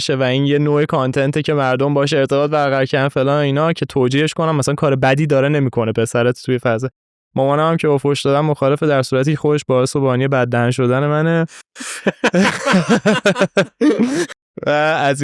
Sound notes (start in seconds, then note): 11.5 laughs